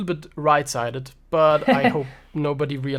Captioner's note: chuckles